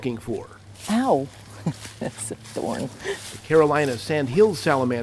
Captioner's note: laughter